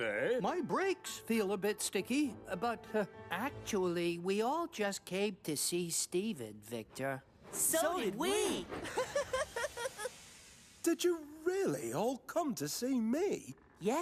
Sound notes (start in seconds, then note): 8.8 laughs